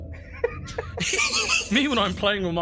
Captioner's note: laugh